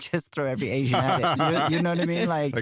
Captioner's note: laughter